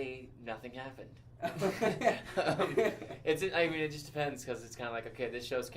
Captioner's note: laughs